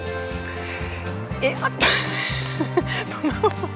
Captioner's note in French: rires